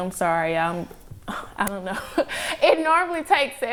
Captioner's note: laughs